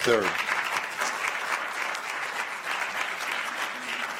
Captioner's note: applause